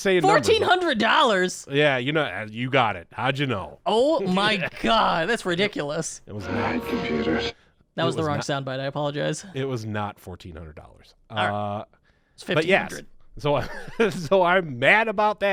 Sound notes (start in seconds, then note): 6.3 elderly Voice